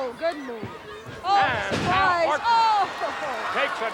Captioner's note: chuckles